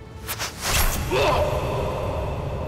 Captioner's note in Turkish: Ok saplanma sesi